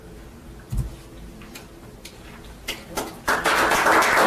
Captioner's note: applause